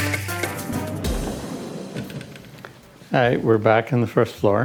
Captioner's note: door whirring